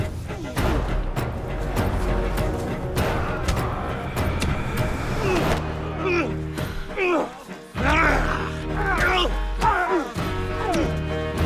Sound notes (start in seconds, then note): 4.1 dramatic music; 7.7 both moaning